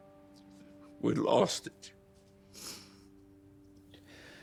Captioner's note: sniffles